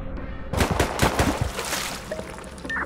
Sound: splash

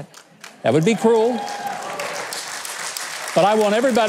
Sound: audience applauding

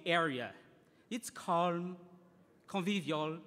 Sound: speaking in foreign language

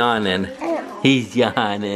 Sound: coos

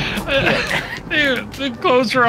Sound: laughing

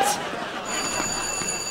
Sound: bell ringing

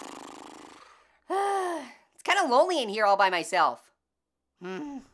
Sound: flutters lips; sighs

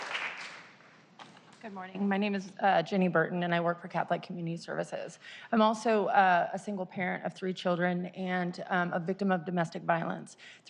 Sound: applause

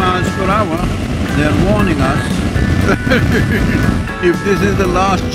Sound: laughs

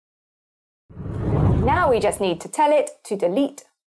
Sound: wind blows

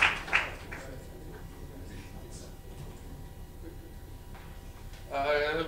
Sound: people chattering

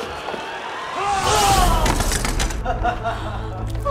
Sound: groaning; evil chuckle

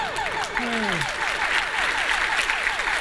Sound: applause

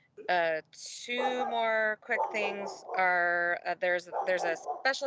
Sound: dog barking

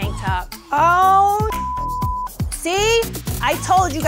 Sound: computer bleeps

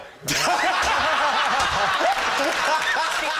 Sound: laughter

